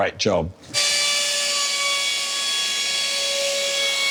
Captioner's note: electric router sound